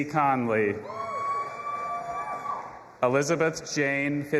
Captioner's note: audience applauding and cheering